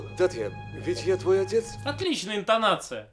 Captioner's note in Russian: неуверенно. апатично сказано